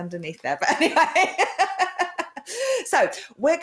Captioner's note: laughter